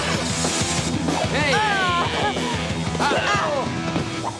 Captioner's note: Rangers grunting